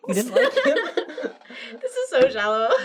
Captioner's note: laughing